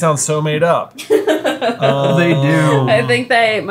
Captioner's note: laughing